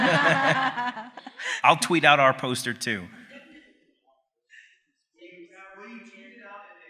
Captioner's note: laughs